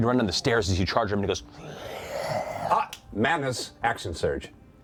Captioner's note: growls